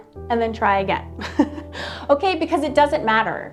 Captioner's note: laughs